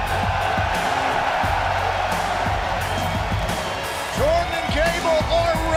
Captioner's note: cheers and applause